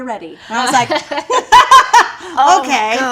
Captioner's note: laughing